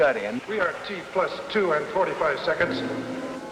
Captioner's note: man on PA